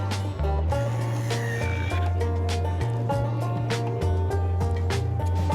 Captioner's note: drill whirring